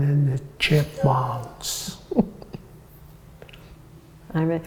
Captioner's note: laughter